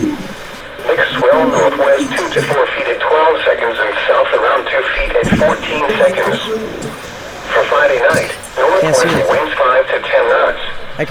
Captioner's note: radio voices